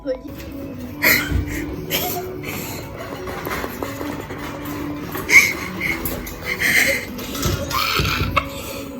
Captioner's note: aggresive tapping; laughing